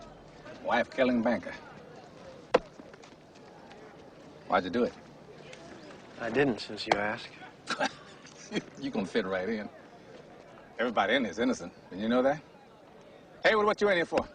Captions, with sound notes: Wife-killing banker. Why'd you do it? I didn't since you ask. (laughs) You gonna fit right in. Everybody in here is innocent. Didn't you know that? Heywood, what you in for?